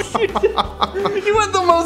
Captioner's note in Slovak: smiech